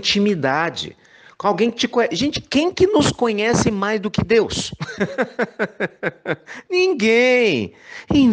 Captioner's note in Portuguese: risos